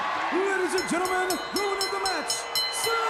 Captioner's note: crowd cheering; bell ringing